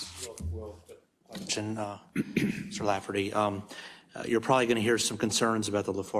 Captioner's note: cough